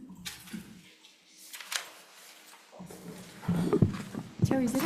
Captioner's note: paper rustling